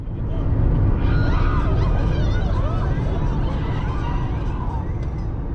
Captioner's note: crowd screaming